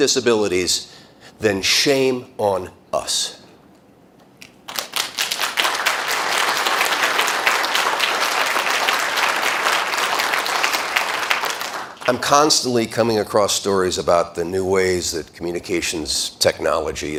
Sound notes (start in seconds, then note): 9.5 applause